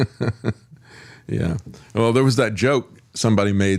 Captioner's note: laughs